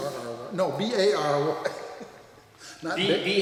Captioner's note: laughs